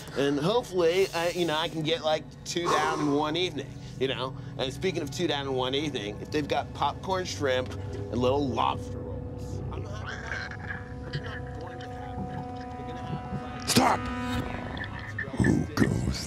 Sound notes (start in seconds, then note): 2.6 Sal sighs; 11.8 suspenseful music